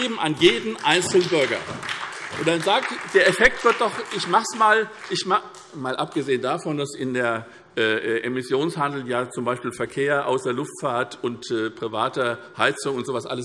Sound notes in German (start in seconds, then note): 2.1 Beifall SPD